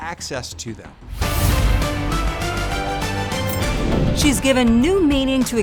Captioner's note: bright music; air whooshes